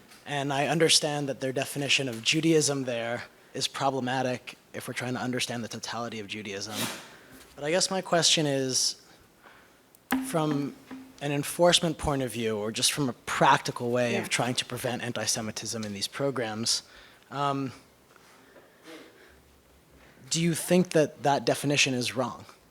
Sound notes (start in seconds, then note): 18.9 coughs